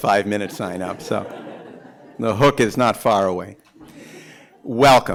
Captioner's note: laughter; laughter